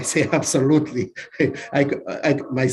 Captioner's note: speaker laughing